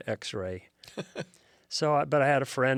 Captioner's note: laughs